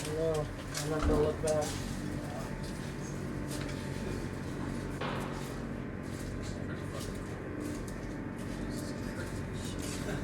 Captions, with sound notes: I don't know, I'm not gonna look back. (people talking quietly) (ominous music)